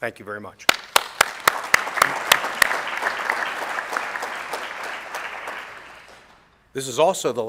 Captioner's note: applause